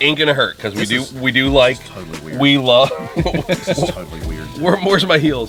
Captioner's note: laughing